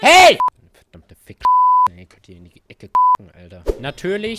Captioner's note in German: piep